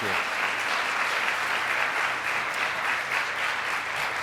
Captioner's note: clapping